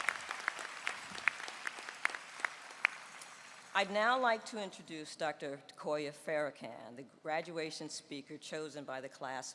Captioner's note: applause